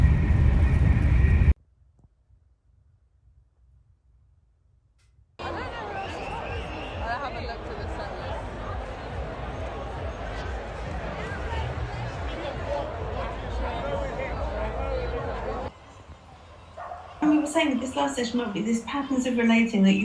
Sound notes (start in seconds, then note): 2.0 silence; 5.2 street sounds